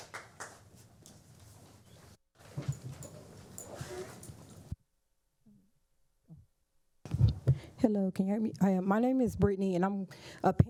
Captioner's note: applause